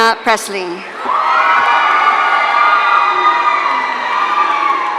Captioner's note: audience cheering